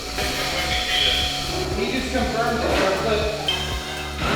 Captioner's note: laughs; workers conversing